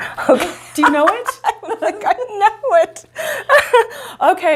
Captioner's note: laughing